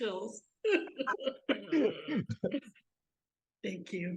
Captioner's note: both laughing